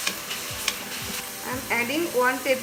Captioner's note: sizzling